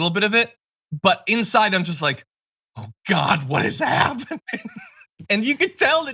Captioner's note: laugh